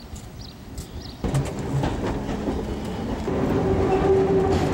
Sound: train wheels clack; metal whines

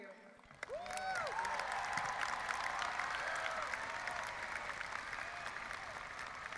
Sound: audience applauding and cheering

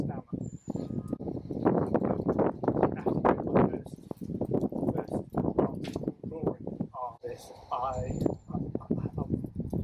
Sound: strong wind in background

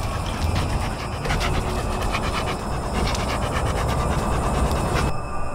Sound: dog breathing

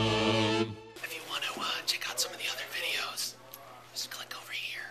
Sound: whispering

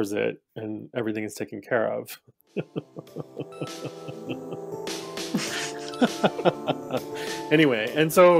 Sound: laughter

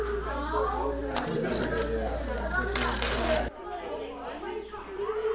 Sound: children talking

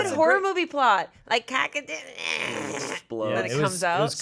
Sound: groaning

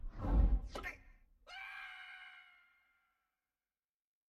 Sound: Scrat screaming

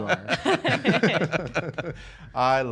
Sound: laughter

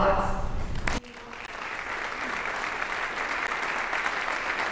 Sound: audience applauding

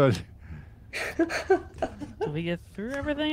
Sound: laughs

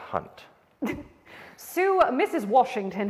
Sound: chuckles

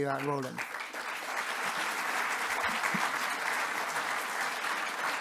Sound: audience applauding

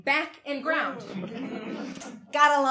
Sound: audience laughing

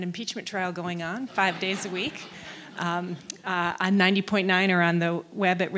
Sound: audience laugh

